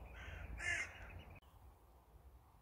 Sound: crow sound

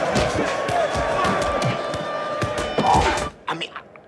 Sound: screaming; alarm wailing; inmates shouting

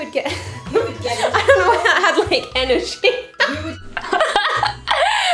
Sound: laughs

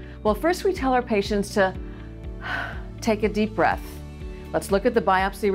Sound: exhales deeply

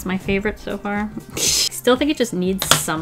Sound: pfff

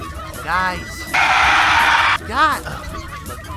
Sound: more screeching

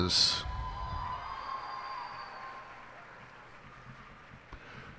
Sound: cheers and applause

